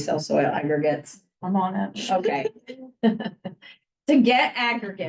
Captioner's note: laughs